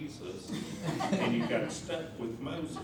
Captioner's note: laughter